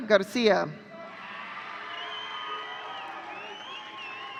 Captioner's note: audience cheering